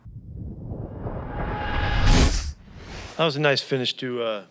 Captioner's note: logo whooshing in